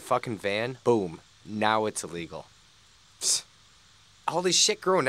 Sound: snorts

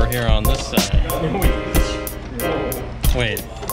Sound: chatter in the background

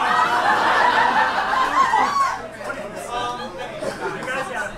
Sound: audience laughs

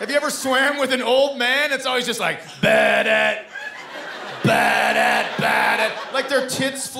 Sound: imitating Theme

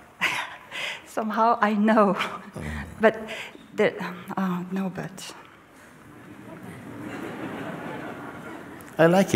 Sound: laughter

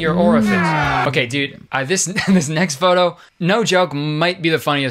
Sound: laughs

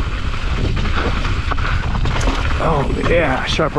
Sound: gravel crunching

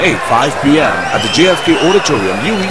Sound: wild applause and cheering for 22 seconds

